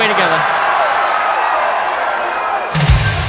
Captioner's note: crowd cheers; drums play